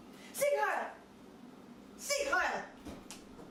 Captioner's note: speaks in foreign language